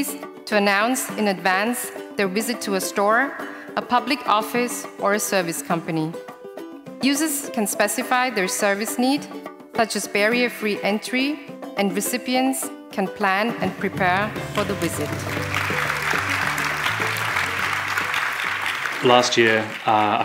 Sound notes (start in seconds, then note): 14.2 applause